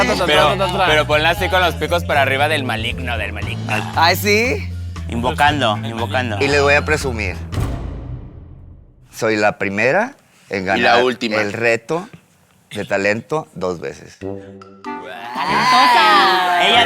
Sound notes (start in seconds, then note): 14.3 gay gasp; 15.1 collective gag